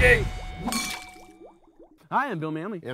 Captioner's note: glasses clinking